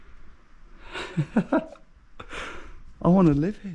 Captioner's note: laughing